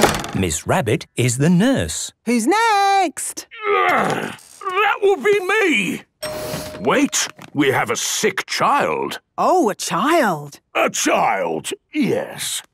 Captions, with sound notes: - Miss Rabbit is the nurse. - Who's next? - Groan! That would be me. - (door dings open) - Wait! We have a sick child! - Oh! A child! - A child, yes...